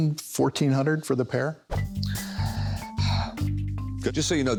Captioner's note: sighs